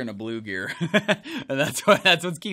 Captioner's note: laughs